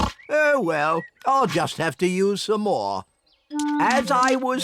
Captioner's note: oinks